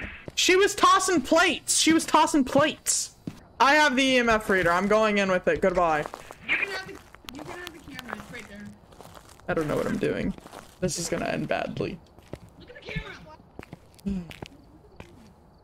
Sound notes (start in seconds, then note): 14.0 sighs